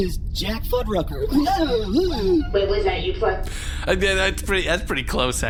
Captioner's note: disrespectful noise